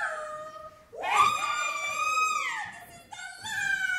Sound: screaming

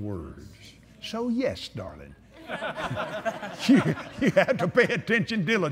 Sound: laughter

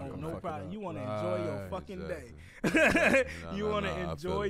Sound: laughs

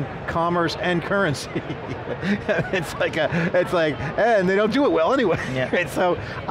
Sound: laughs

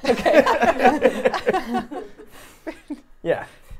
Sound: laugh

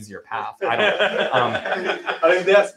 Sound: laughter

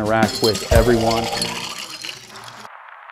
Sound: pouring drink

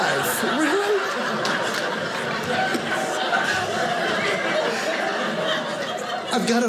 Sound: audience laughing

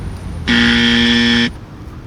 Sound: wrong answer sound

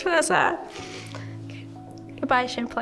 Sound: sighs; sniffs

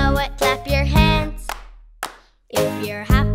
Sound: clapping

